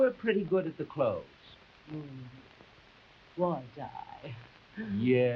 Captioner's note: chuckles